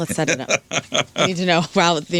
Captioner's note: laughing